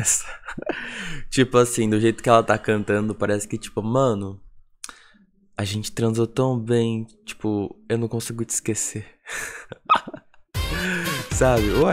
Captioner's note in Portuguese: risos; risos